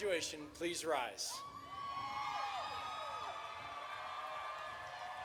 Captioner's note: audience cheering